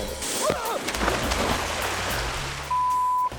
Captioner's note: water sloshes; groans